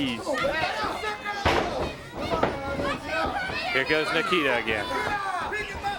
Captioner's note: crowd chatter